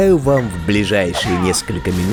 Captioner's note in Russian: крик боли санитара